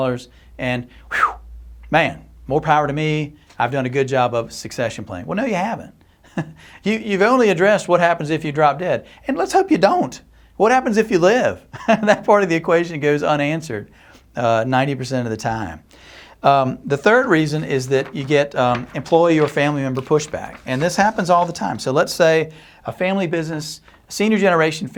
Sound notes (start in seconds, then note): 6.2 chuckles; 11.7 chuckles